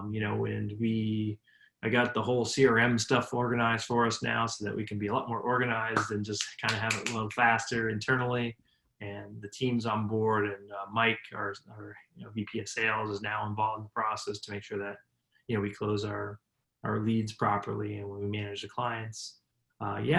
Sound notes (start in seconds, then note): 6.4 snaps fingers